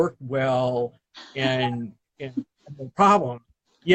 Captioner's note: laughs